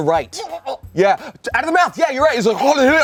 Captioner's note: gags